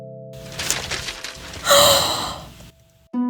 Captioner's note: gasp